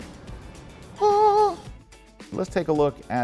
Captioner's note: vocalizes